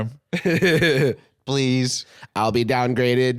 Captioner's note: laughing